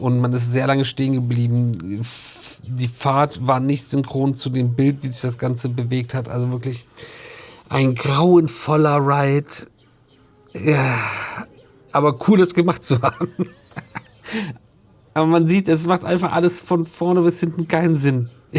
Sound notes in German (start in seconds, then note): 12.8 gelächter